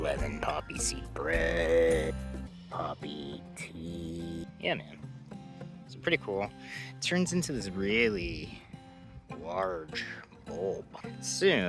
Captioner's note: birds chirping